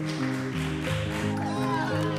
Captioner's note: cheering and clapping